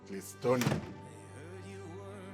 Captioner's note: door slams